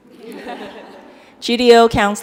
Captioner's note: laughing